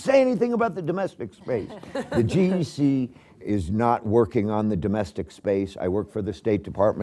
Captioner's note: laughter